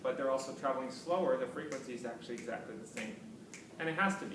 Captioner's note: fingersnapping